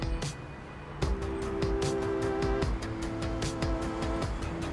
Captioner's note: engines revving